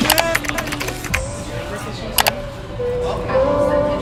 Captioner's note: keyboard Clicking & Typing